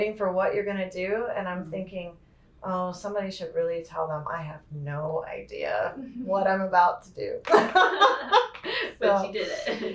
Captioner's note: laughter